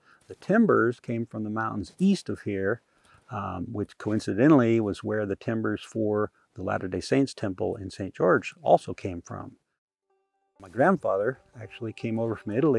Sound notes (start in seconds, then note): none